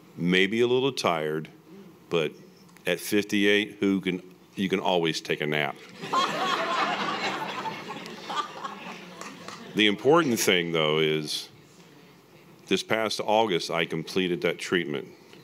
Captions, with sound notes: Maybe a little tired but at 58, you can always take a nap. (audience laughing) The important thing though is this past August I completed that treatment